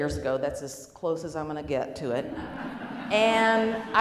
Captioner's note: laughing